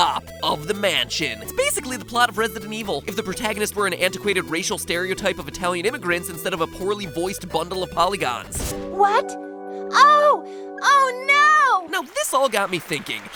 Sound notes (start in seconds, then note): 8.4 audio clip from Resident Evil; 11.9 applause